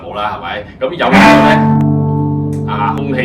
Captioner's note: a forceful sound